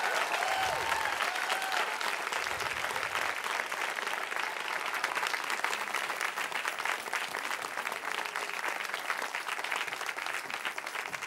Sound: cheering

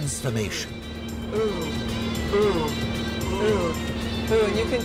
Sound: from inside coach - "Oooh, Oooh, Oooh!

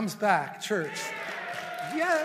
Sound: congregation applauds

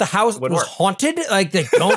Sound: laugh

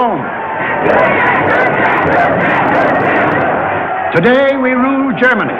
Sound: crowd chanting

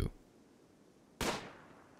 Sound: gunshot

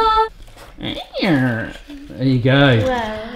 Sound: creaking

